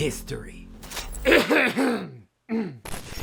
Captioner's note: clears throat